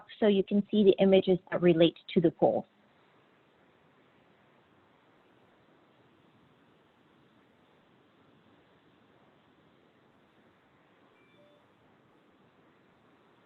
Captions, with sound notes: so you can see the images related to the poll. (phone chimes)